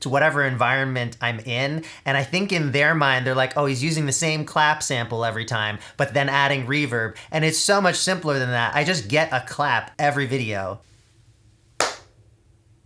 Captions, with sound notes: to whatever environment I'm in. And I think in their mind, they're like, "Oh, he's using the same clap sample every time," but then adding reverb. And it's so much simpler than that. I just get a clap every video. (clap)